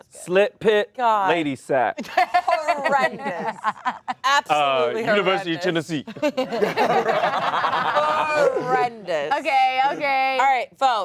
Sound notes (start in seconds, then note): 6.2 all laugh